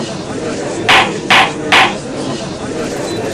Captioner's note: gallery chattering!; gavel slams!